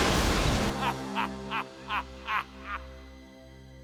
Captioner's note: cackling